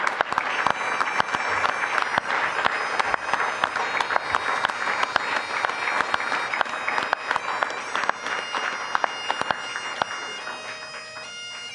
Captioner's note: applause; bagpipe music